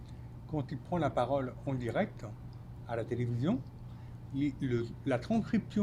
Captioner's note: speaking French